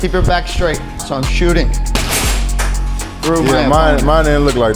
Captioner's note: kick thudding loudly